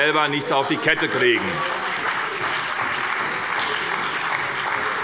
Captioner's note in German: Beifall bei der SPD